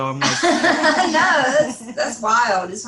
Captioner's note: laughing